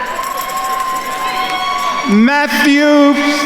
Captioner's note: attendees cheering and applauding